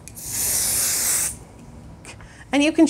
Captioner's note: spray hisses